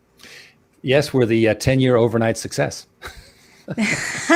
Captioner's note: laughing; laughs